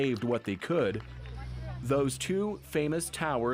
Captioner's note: applause